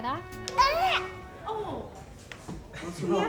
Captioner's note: squaks